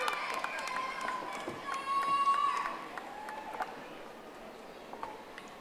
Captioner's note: audience applauding